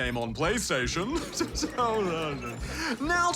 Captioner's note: chuckles